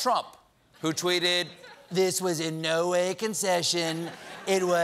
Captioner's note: laughter